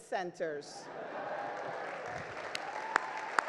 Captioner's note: crowd cheers; crowd applauds